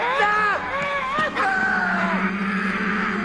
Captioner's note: Knock wails hysterically